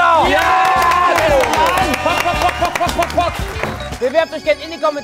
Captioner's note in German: Jubel, Hupen, Pfiffe